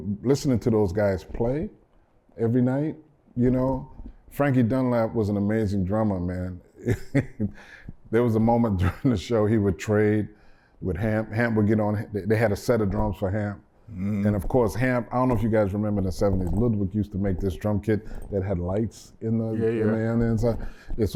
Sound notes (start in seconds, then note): 6.8 laughter